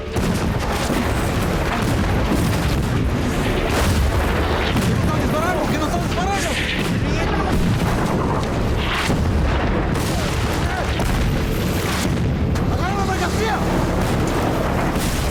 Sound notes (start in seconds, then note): 0.2 explosions blasting; 4.9 smugglers shouting in Spanish